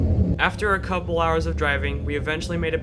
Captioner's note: voiceover